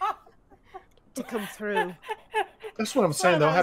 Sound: laughing

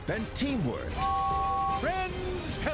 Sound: james whistles

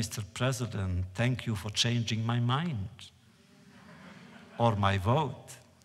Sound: laughter

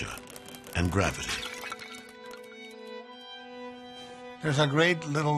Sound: pottery shatters

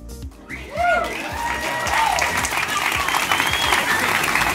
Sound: audience applauding

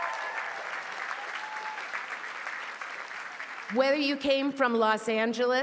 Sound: applause

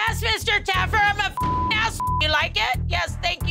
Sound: beeping

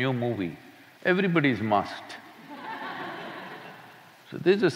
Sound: laughter

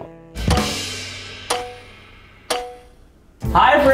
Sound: timer beeping

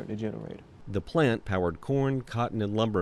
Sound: voiceover

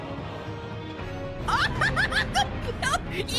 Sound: yelling

